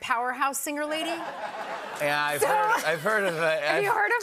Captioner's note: laughter